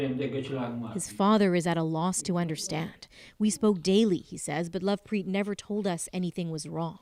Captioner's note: speaking alternate language